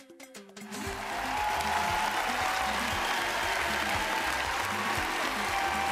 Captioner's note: cheering